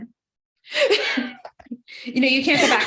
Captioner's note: laughs